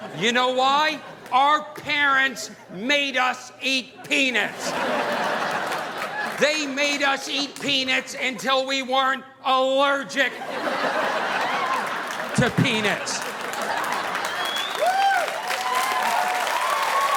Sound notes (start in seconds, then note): 3.9 audience laughing; 13.8 audience applauding